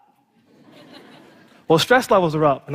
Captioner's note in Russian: Смех